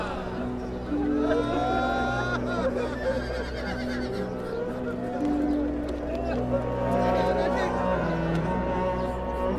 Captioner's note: sound of crying